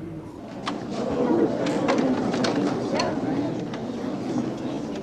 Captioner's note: people murmuring